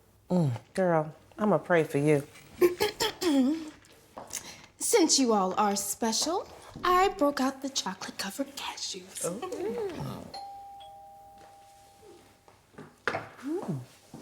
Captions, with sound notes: Hmm, girl, I'm gonna pray for you. [NAOMI clearing throat] Since you all are special, I broke out the chocolate-covered cashews. Ooh. [door bell RINGING]